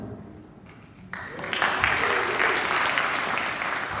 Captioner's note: applause